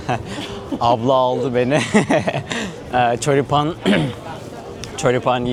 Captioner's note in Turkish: kahkaha